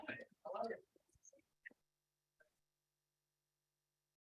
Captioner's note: audience chattering